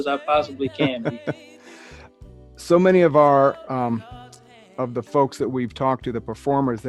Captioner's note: laughs